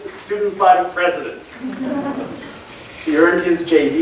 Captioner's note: laughter